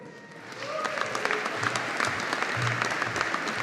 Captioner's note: audience applauding